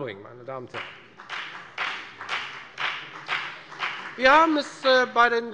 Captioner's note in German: Beifall bei der FDP